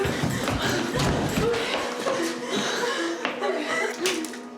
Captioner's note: both heaving; ominous music